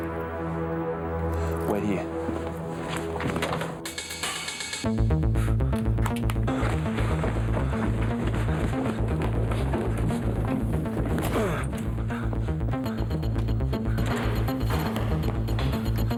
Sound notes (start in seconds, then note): 4.3 suspenseful music; 11.1 John gasps